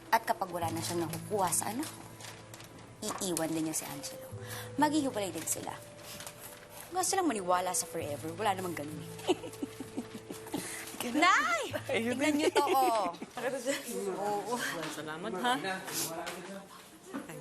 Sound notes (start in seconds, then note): 9.1 giggles; 13.4 busy chatter